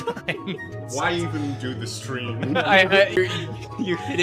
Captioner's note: laughter; laughter